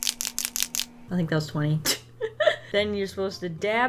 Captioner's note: laughs